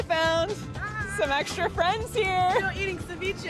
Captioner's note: laughs